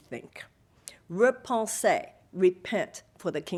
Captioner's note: speaking foreign language